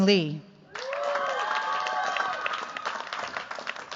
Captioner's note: cheers, applause